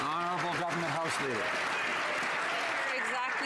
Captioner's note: some Applause